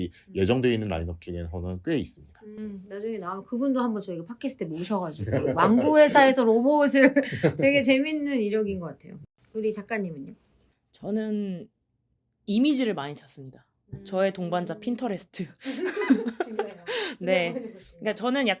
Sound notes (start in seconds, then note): 15.7 laughs